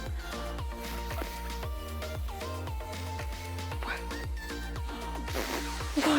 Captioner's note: blows bubble